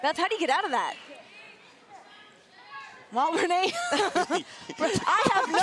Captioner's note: laugh